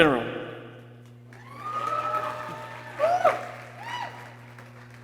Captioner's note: people cheering